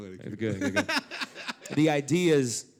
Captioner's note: laugh